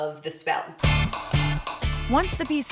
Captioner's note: hammering